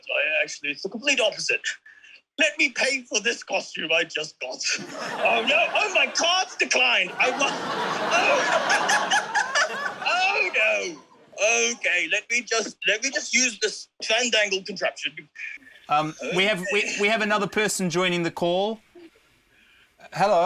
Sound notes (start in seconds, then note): 7.0 laughs; 7.0 laughter